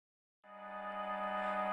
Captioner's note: bell